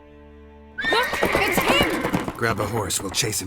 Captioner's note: horse neighs